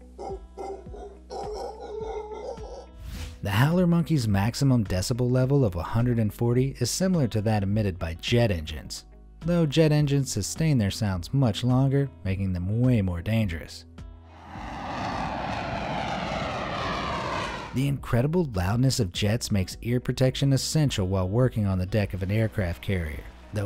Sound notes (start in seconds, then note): 0.0 monkey howling; 14.3 jet engine screeching